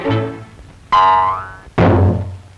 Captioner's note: boing!